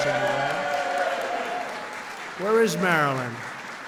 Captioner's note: applause